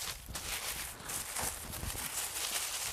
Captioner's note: rustling